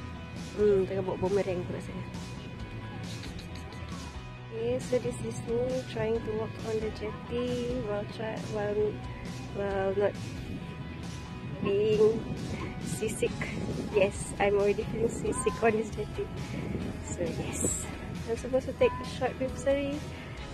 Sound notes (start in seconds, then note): 3.2 soft cheeky chuckle